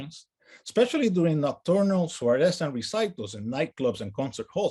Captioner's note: speaks in native language